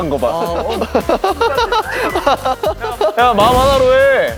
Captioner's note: haha